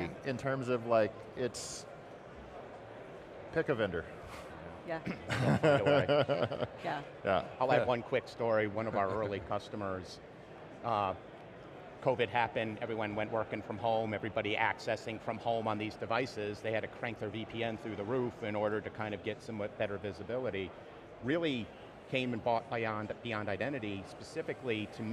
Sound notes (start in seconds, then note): 5.1 chuckling